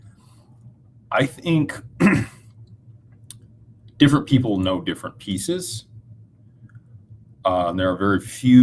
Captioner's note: clears throat